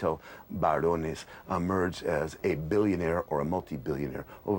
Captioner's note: speaking in non-English